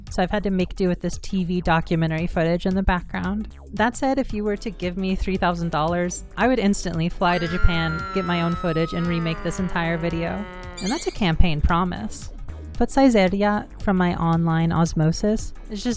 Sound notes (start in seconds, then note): 6.9 Mario making plane noises; 7.2 woman screaming; 10.8 shimmer